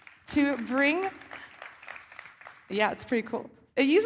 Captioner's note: applause